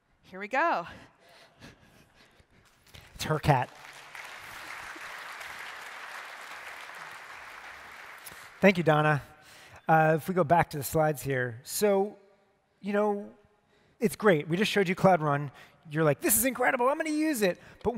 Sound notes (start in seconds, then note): 5.7 applause